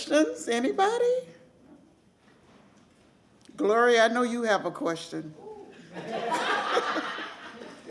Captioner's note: laughter